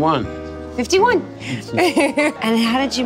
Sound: laughing

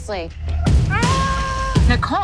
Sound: yells

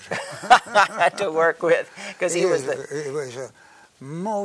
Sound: laughs

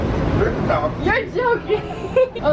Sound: outburst laughter

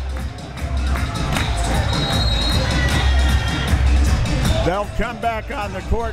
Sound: crowd members clapping; upbeat music

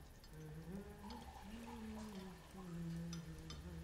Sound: Abigail humming

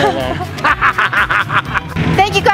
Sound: laughs

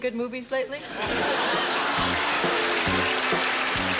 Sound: laughter; upbeat music; applause

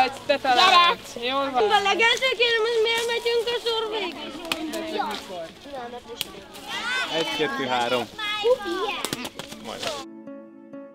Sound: chatter

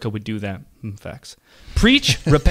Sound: chuckling

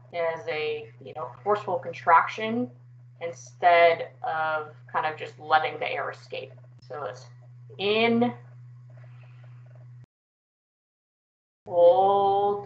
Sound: breathin sounds

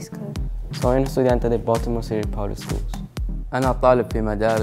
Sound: speaking in foreign language

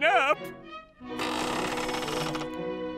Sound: creaking

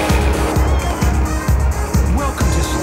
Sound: all clamouring

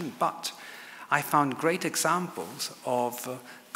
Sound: none

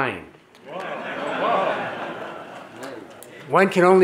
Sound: audience laughing

